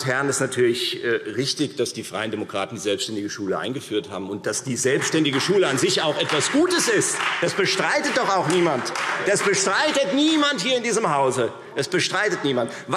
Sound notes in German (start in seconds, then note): 7.0 Beifall Freie Demokraten